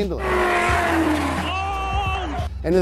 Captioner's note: tires screaming